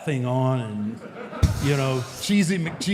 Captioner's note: audience laughs